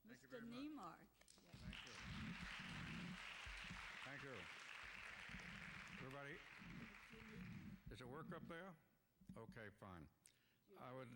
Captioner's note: applause